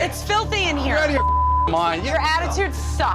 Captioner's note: beep